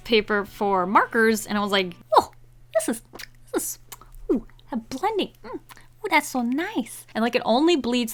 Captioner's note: kisses air